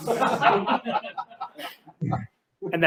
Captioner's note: laughter